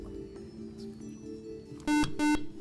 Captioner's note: whispering; buzzer